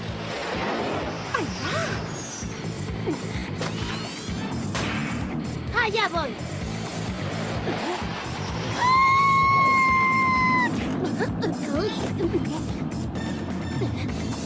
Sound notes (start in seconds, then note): 3.6 zip; 4.7 bang